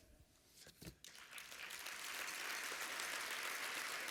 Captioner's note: applause